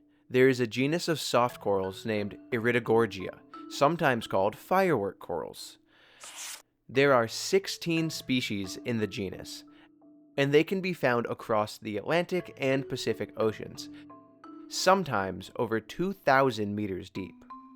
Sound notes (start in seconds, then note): 6.2 page rustles; 17.5 gentle music continues